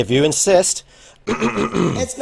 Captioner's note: takes deep breath